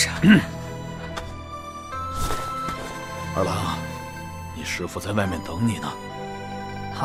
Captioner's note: coughing